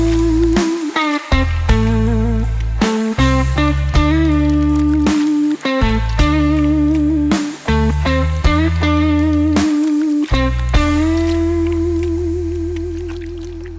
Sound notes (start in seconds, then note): 3.9 chewing noises